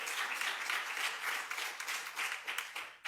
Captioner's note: applause